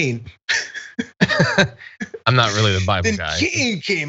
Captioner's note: laugh